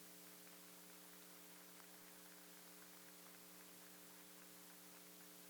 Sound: board members applaud

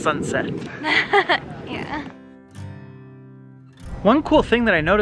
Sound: laughs

